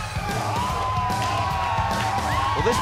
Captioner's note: cheers and applause